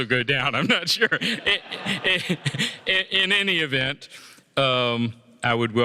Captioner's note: laughter